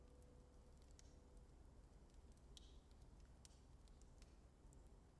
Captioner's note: flames crackling